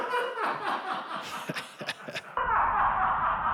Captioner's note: man in audience laughs; laughs calmly